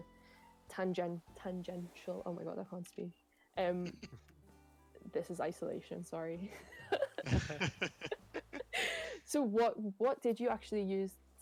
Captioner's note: laughter